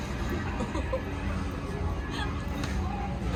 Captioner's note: laughing